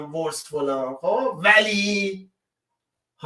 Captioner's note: reads the English letter with a mocking tone